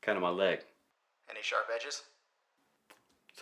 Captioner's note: Marco On Phone